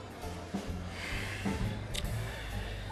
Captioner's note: sighs